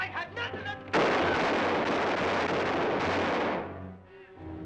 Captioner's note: gun firing